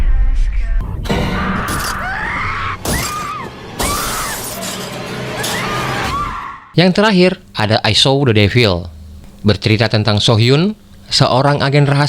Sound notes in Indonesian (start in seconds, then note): 1.2 berteriak